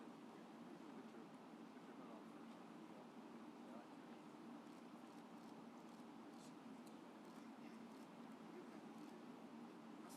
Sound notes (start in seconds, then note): none